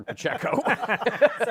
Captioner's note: laughter